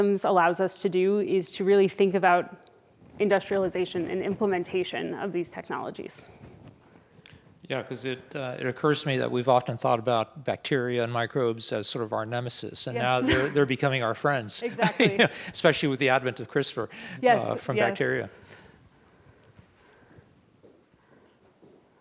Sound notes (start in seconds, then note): 14.7 laughs